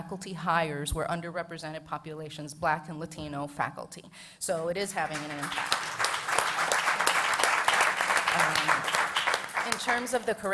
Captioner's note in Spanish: Aplausos